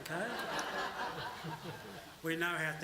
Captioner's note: laughter